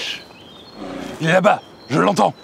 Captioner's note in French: rugissement d'ours